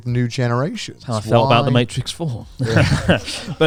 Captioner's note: chuckling